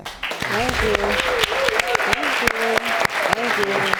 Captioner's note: audience claps